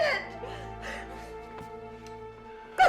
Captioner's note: sobbing